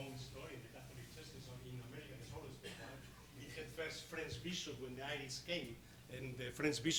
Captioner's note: speaking off microphone